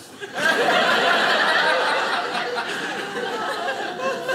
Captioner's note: audience laughing